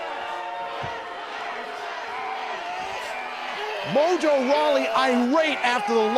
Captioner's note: cheers & boos